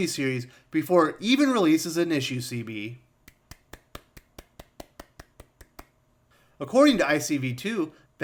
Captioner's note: glof Clap